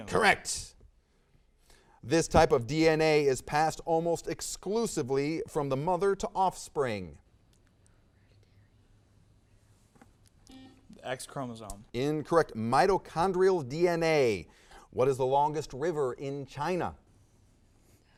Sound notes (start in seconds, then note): 10.5 buzzer sounds